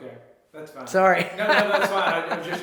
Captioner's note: laughs